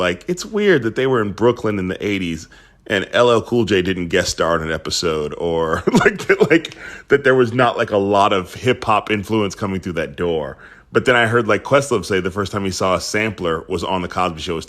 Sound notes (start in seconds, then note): 5.7 laughter